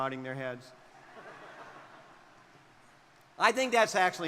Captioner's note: crowd laughing